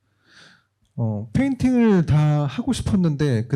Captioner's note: speaking korean